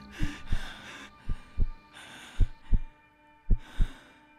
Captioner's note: heart beating